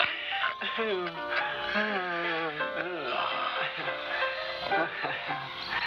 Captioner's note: whistles; laughs